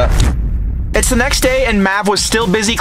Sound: dramatic sound

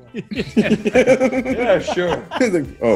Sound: laugh

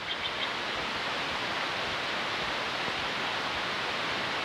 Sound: creek and birds

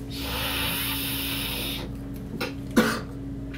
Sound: inhaling

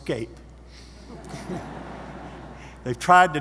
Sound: audience laughing

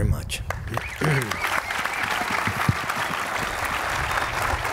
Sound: applause

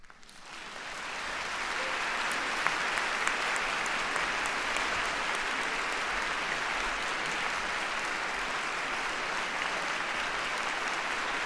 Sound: applause from the audience

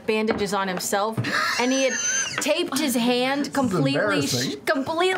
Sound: laughing

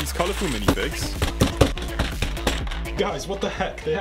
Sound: popping

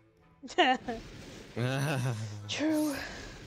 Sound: laugh

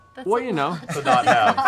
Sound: laughter

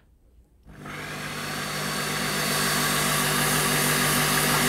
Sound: blender grinding

